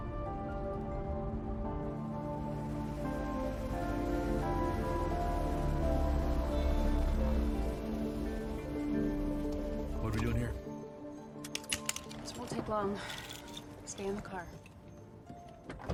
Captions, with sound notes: [vehicle approaching] What are we doing here? This won't take long. Stay in the car.